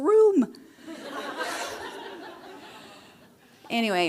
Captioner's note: laughter